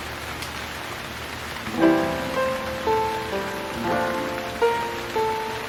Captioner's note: rain Sound